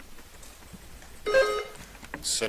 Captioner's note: buzzer dings